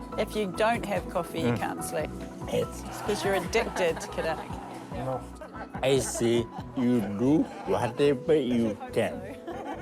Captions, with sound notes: If you don't have coffee, you can't sleep? It's because you're addicted, Khadag. (LAUGHTER)